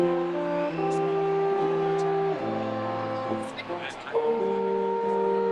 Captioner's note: attendees cheering